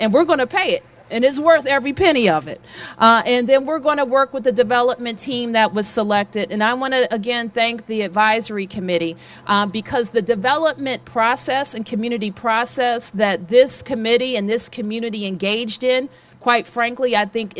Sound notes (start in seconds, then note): none